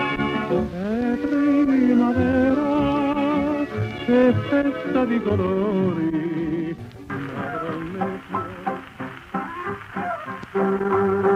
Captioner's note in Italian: Applauso